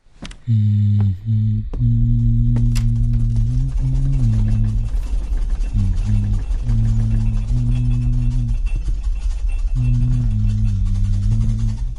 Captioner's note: shaking & groaning of the church starts again